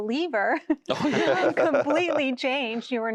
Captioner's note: laughter